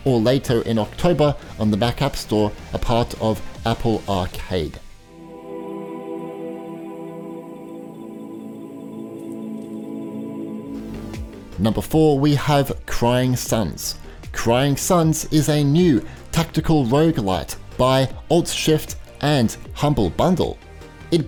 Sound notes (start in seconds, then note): 5.2 insects chirping; 5.2 reverent music